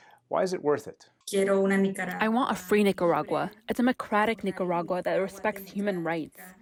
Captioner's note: through translator